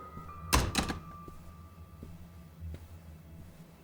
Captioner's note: ominous music; door clicks